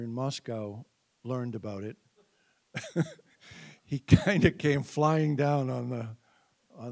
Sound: chuckling

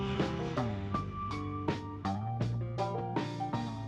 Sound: indistinct chatter

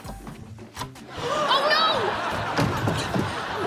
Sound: gasping

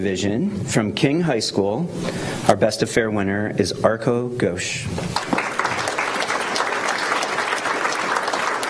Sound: applause

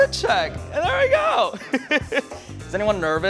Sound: laughs

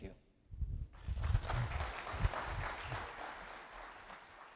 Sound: audience applauds

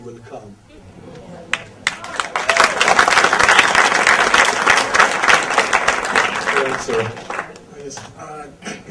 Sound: audience applause and cheer

